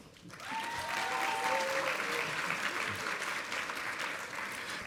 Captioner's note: audience applauding